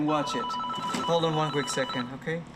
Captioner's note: phone rings